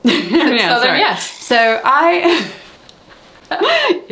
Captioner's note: laughs